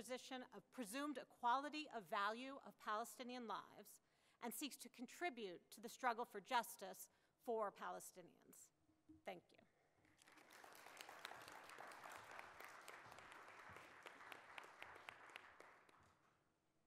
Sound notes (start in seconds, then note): 10.1 audience applauds